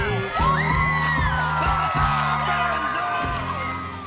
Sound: team cheering

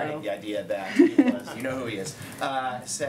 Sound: laughter

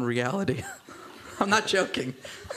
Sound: laughter

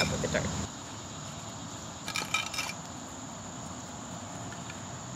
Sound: clanging sound of rocks being piled onto one another

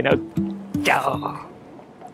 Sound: lion roar in Japanese

